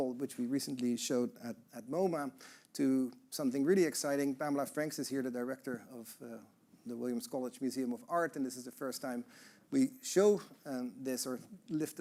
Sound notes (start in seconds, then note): none